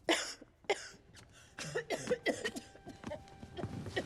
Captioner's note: coughing